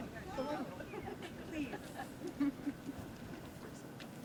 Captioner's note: laughter